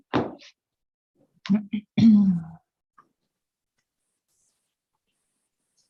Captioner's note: clears throat